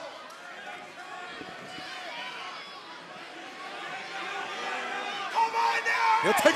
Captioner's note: crowd chatter